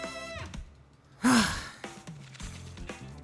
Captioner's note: sigh